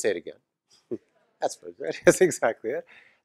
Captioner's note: laugh